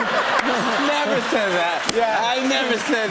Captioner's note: laughter